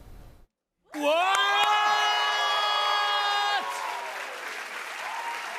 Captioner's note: cheers and applause